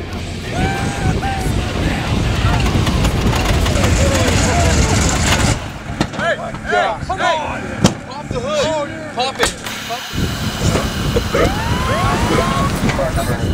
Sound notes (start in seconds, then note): 2.5 engine sputters; 10.6 police sirens wailing